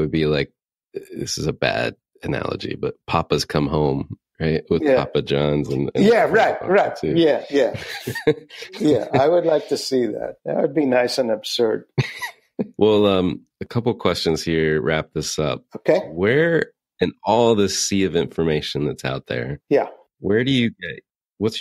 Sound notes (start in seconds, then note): 9.0 laughs; 11.9 laughing